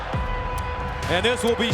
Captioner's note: crowd cheering; upbeat music